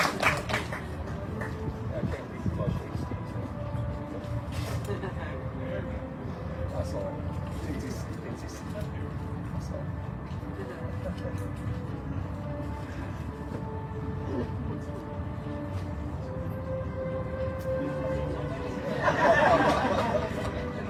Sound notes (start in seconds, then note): 0.0 audience cheering, applauding; 3.0 indistinct chatter; 18.5 audience laughs